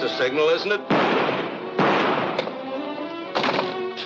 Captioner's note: gun firing